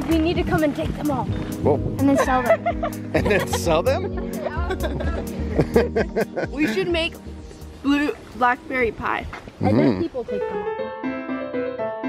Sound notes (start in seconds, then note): 4.6 laughs